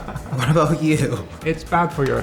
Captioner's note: laughs